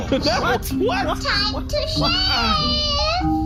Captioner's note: laughing